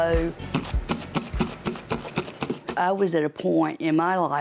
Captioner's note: rhythmic thumping